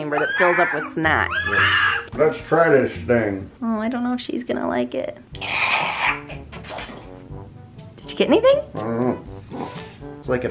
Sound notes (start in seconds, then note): 5.0 soft, playful music; 5.4 sucking